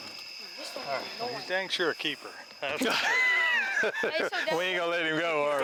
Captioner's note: laughing